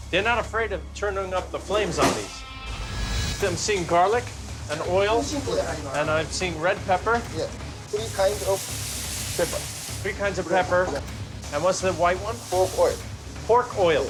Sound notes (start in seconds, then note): none